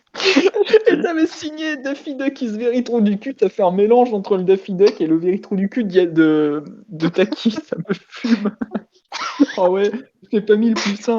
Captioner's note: laugh